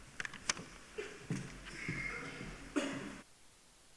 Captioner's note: coughing